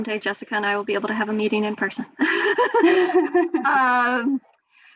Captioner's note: laughs